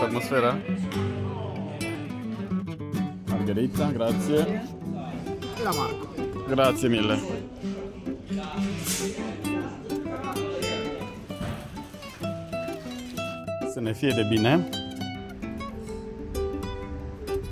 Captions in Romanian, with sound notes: atmosfera!? Margherita, grazzie! Marco, grazzie mille! [vorbind italiană] Să ne fie de bine!